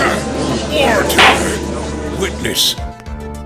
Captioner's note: gavel slams!